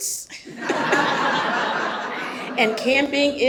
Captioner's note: audience laughs